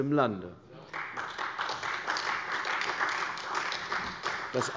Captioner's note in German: Beifall bei der CDU